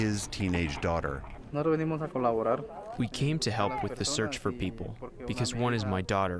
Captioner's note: through translator